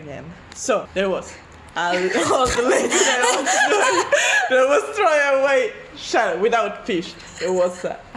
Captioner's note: were laughing so loud in the background